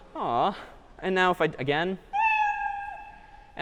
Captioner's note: meow